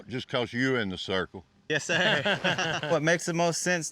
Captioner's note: laughs